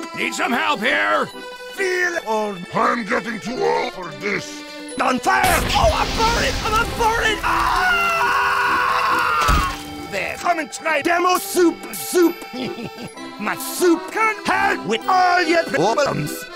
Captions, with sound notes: Need some help here! "Feel old?" I am getting too old for this... "On FIRE?!" Oh I'm burning! I-I'm BURNING! *Scout screams* Then come and try Demo's SOUP-ER SOUP! *Demo giggles* My soup can HELP with all your problems!